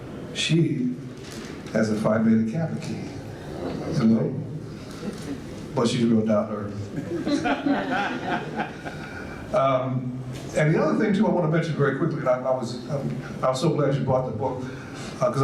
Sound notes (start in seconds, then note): 6.9 audience laughs